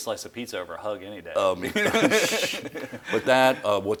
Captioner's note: laughs